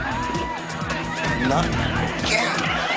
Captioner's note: crowd shouting